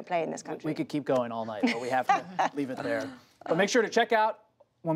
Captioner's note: laughter